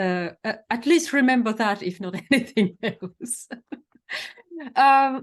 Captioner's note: laughs